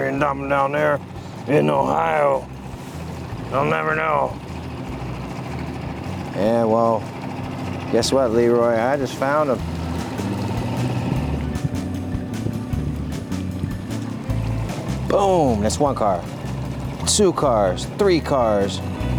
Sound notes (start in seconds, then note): 6.3 normal voice; 11.6 upbeat music